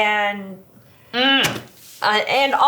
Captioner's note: grunts